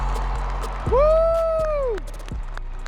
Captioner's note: audience applauding and cheering